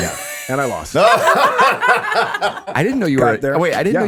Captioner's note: all laughing